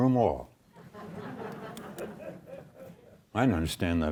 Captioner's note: audience laughs